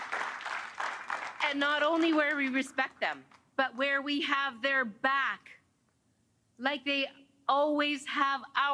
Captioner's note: cheers and Applause